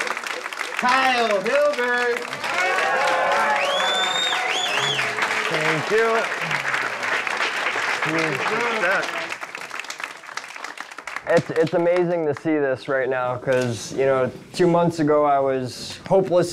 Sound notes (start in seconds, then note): 2.7 attendees cheer and applaud